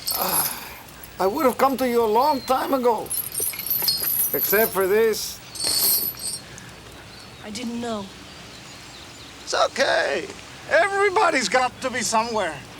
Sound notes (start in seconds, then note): 0.0 Crecencio sighs; 5.6 chain rattles